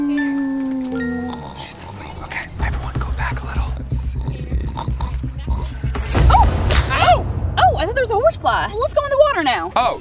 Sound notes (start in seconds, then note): 1.0 snoring; 1.9 whispering; 4.0 snoring; 5.4 music crescendos